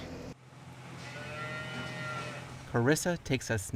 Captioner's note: cows mooing